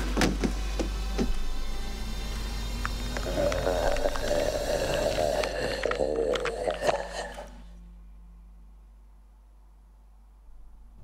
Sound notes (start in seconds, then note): 0.0 neck snapping; 0.2 body thudding; 1.2 intense music; 2.8 bones cracking; 2.9 mummy growling